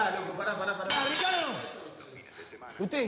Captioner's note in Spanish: barreta cae